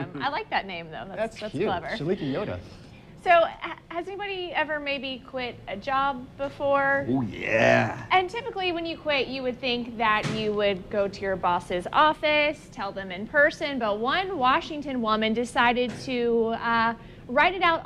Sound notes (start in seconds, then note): 4.6 laughs